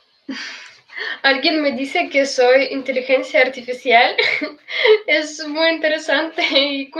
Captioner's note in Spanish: risas